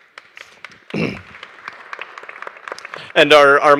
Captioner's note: audience applauding